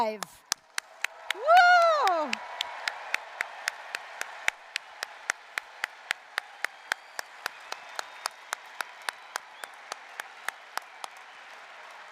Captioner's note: applause, cheering